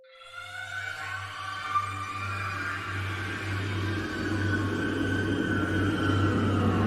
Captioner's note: screaming; scary music